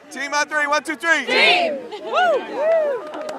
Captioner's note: girls cheer